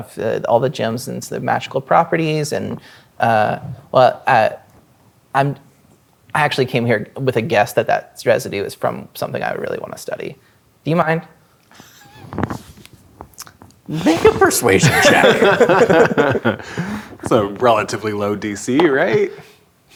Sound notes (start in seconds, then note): 11.9 laughing; 14.0 players laughing